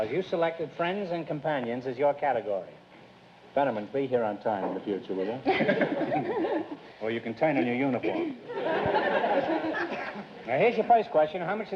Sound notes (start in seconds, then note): 5.4 laughter; 8.5 audience laughter